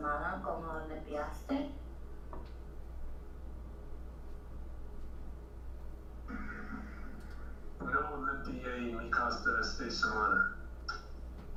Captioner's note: spanish Speech